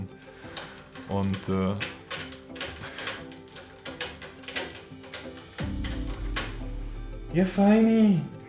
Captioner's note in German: Kratzgeräusche von der Katze